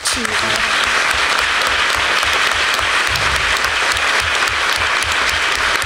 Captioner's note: applause